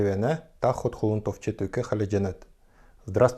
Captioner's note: speaks in Kalmyk